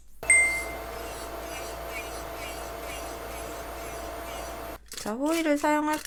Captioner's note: drilling